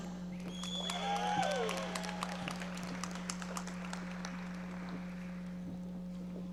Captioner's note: audience cheering and applauding